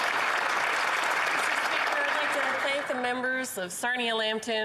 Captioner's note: some Applause